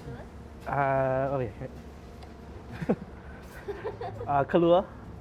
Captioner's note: chuckles